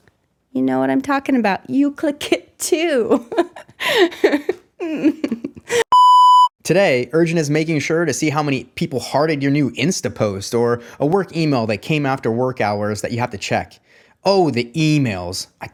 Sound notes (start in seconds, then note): 4.8 laughing; 5.8 monitor beeping